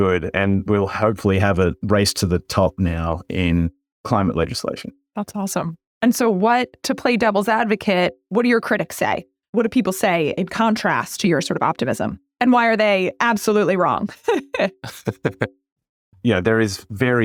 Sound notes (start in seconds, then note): 14.2 laugh